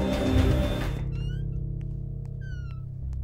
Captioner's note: Door opens